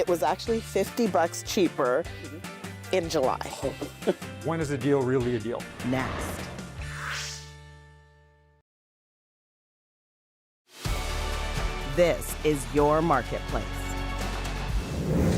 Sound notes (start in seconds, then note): 3.5 laughs; 10.8 theme music